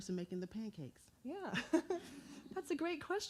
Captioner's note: chuckles